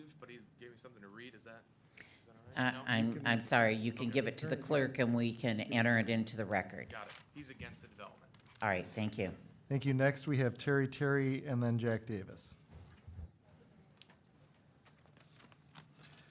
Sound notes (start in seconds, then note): none